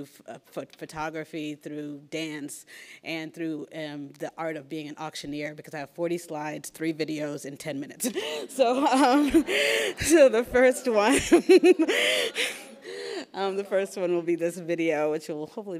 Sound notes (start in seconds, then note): 8.6 laughs